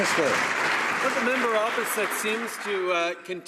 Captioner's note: applause